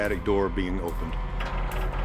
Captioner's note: creaking